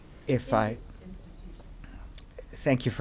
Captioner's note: voice muffled